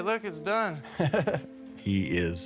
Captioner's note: laughs